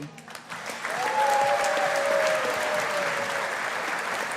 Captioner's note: audience applauding